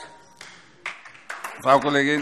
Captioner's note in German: Beifall DIE LINKE